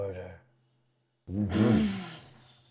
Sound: restrained exhale

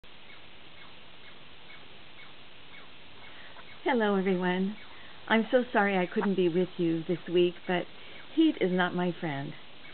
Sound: birds chirping

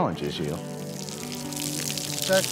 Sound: water running

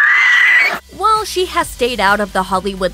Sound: squeals

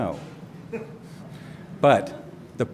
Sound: laughter

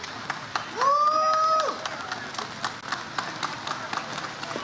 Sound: audience cheers

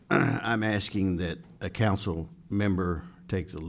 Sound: clears throat

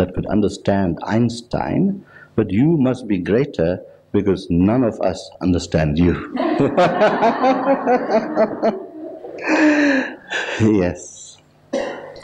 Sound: laughs

